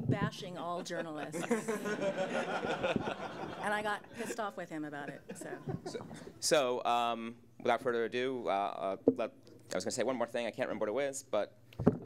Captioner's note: audience Laughter